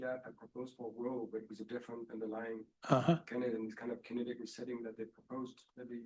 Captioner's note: speaking faintly